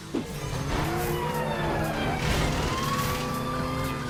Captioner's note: sirens